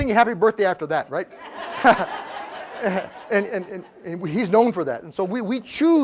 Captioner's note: laugh